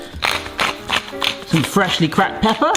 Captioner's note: gentle music; pepper mill grinds